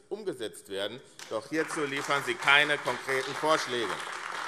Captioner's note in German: Beifall AfD